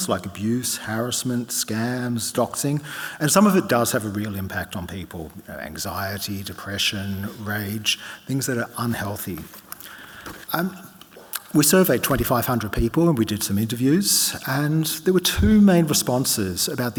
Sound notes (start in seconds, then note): none